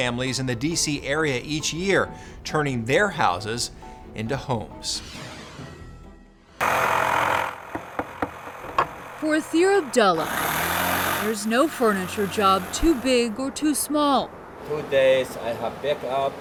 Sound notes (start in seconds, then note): 5.1 whooshing; 6.6 tool loudly whirring; 6.7 hammer banging